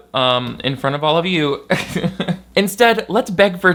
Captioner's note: chuckles